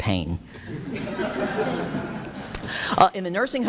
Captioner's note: audience laughs